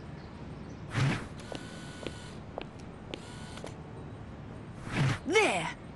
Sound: footsteps; lens whirring

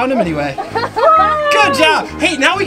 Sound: cheering

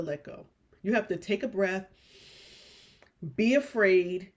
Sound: inhales

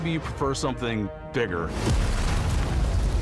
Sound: massive explosion

